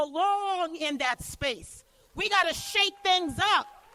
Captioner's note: cheers and applause